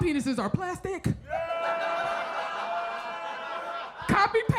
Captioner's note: audience laughs